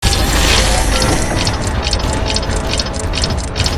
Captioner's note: gears clanging